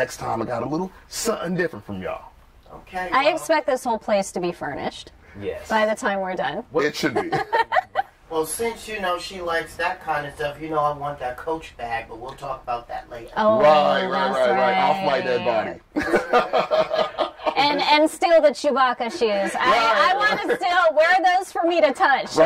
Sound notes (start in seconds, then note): 13.9 sounds of agreement; 15.9 laughter; 19.1 laughter